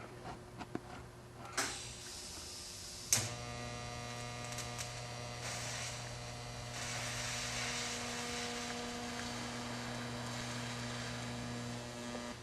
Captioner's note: welding